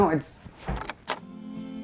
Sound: door clicks closed

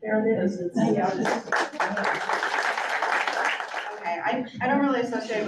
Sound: audience claps

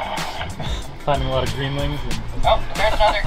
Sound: laughs

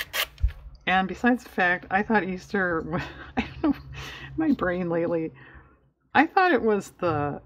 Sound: laughs

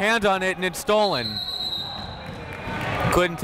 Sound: whistle

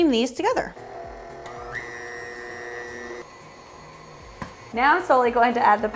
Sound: stand mixer whirring

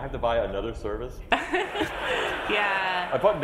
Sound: laughs

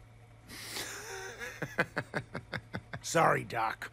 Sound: laughs

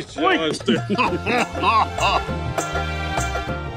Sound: laughing

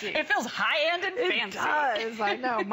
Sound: laughter

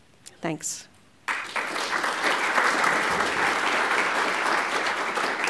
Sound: applause

